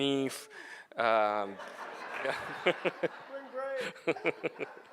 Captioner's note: audience laughing